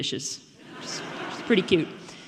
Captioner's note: audience laughing